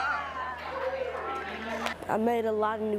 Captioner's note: group talking